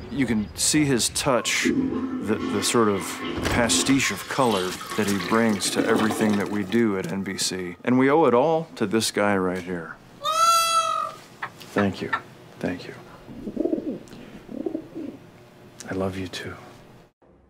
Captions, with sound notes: >> You can see his touch the the sort of pastiche of color that he brings to everything that we do at NBC, and we owe it all to this guy right here. (bird squawk) Thank you, thank you, I love you too.